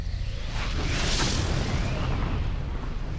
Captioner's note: explosions